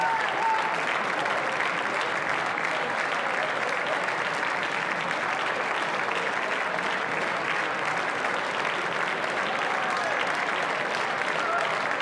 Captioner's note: applause